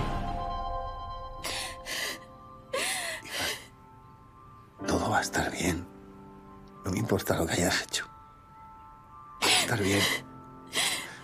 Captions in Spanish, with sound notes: (LLORA ANAÍS) -Hija... Todo va a estar bien. No importa lo que hayas hecho. Vas a estar bien.